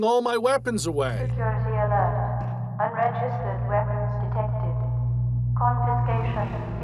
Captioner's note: warning voice